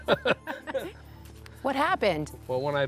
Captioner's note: laughter